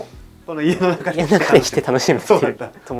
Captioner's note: laughs